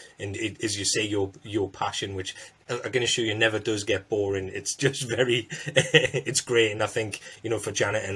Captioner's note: laughter